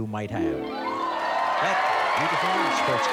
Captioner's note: cheers and applause